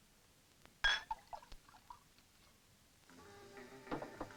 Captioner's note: glass clinks; mysterious music